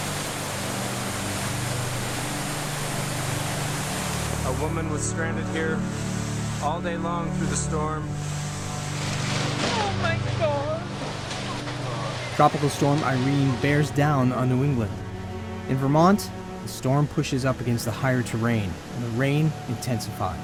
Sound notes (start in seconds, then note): 0.1 rushing water; 8.2 bridge collapses